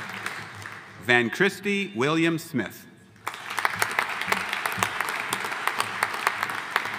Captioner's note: audience applauding